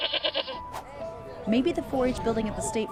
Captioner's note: bleating